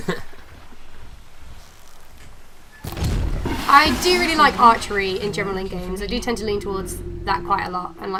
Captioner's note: laughter